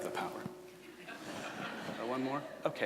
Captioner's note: laughter from audience